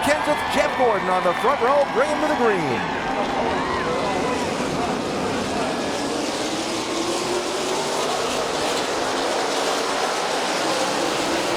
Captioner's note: car engine sounds